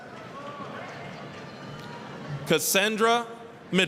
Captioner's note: applause